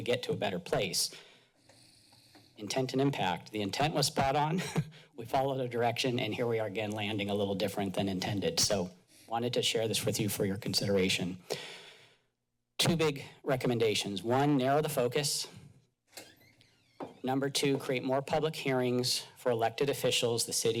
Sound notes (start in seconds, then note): 4.6 chuckles